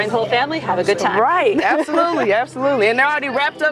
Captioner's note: laughs